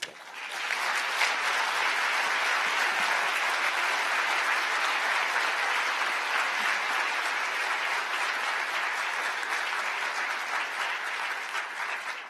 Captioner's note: applause